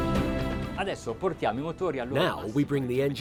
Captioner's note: dramatic orchestral music; speaking foreign language